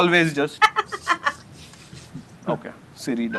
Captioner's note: laughter